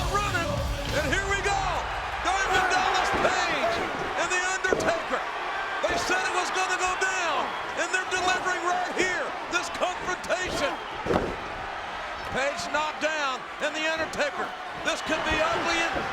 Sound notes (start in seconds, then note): 9.6 body thudding